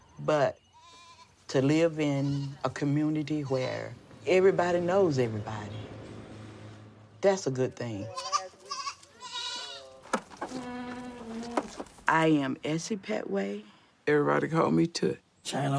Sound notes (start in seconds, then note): 8.0 goats bleating